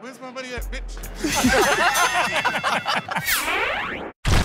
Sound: laughter; ding!

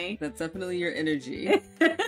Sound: laughs

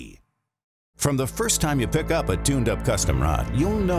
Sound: voiceover

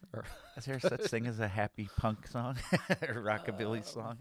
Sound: chuckles

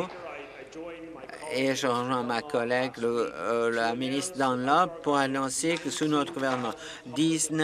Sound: applause

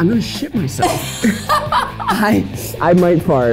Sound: laughing

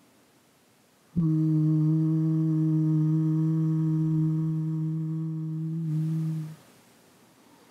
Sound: humming sound

